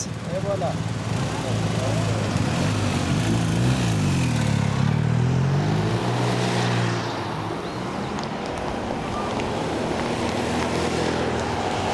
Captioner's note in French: Bruit de motos